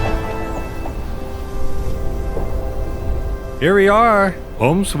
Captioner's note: wind blows